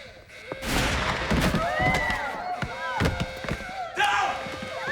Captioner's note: people screaming